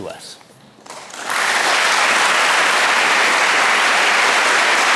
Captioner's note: audience applause